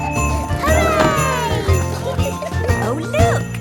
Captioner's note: kids laughing; laughter